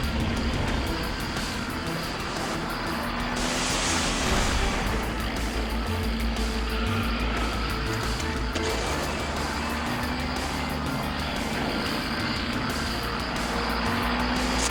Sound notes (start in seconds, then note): 3.6 water splashing; 6.9 tires screeching; 11.1 car engines rumbling; 11.1 thrilling music